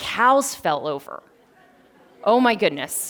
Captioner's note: laughter